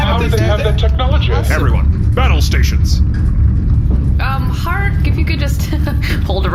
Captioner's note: nervous laughter